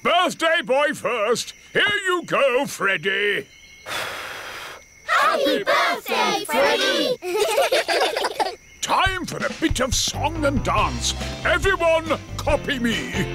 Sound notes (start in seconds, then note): 3.8 blows; 6.7 children giggle